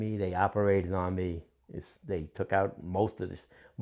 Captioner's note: none